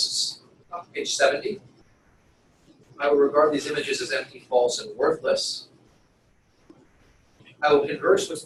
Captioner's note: pause